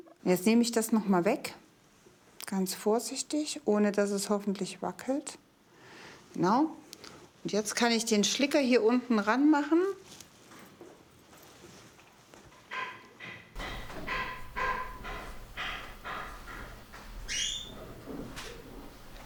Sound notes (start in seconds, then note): 13.2 hammering in the background; 17.1 squeaking in the background